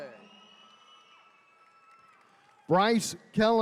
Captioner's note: attendees cheering